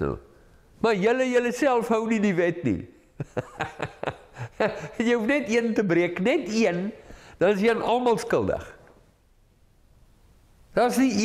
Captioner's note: laugh